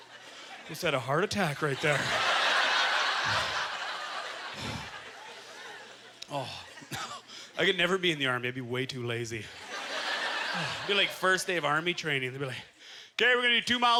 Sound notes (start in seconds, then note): 2.0 audience laughter; 9.5 audience laughter